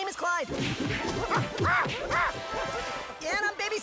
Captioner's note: gibbers happily